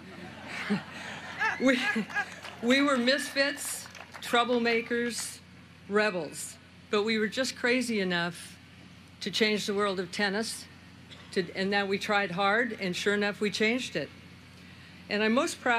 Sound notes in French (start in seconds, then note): 4.7 laughter; 5.5 applause